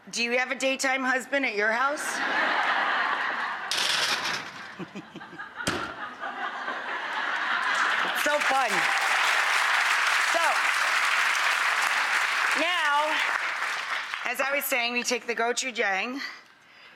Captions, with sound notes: Do you have a daytime husband at your house? (laughing) So fun. (applause) So-- Now, as I was saying we take the gochujang,